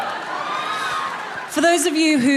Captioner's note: people cheering